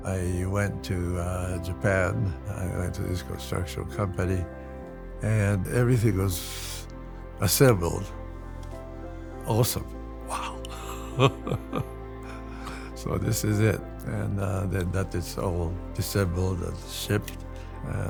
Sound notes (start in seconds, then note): 10.4 chuckling